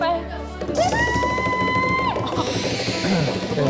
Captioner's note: sound of banging on the table